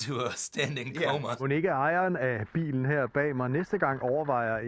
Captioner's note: reporter speaking Danish